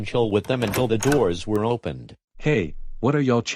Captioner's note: door open